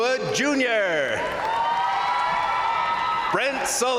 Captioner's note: crowd cheering; crowd applauding